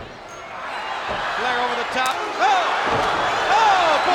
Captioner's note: blows thudding